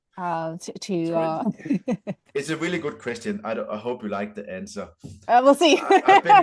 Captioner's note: laughs